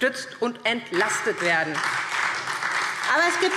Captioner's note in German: Beifall SPD und DIE LINKE